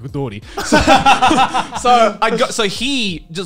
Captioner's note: laughing